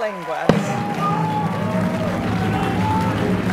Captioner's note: applause